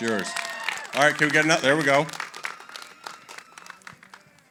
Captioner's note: applause